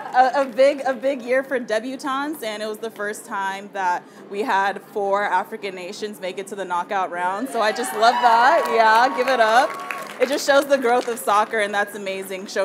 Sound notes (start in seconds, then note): 7.8 audience applauding